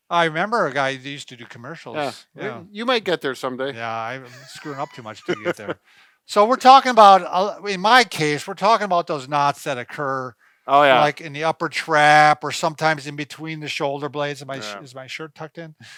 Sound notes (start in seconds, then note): 4.2 laughter